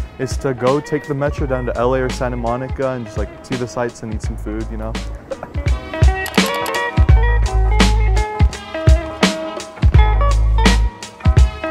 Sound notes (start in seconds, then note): 5.0 laughs; 6.3 upbeat music